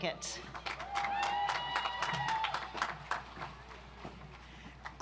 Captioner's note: audience applauds